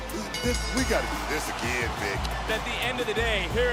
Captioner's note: bell rings